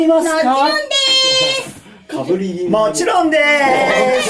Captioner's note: laughs